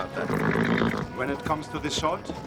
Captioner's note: horse snorts